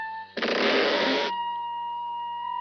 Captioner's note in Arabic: صرير النافذة بصوت عالٍ